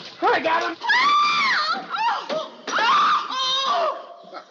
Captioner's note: gasps; Susie Screaming